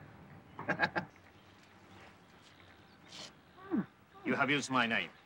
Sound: Parker chuckles

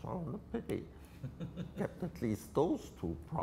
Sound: laughs

